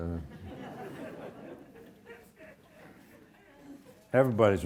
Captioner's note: audience laughs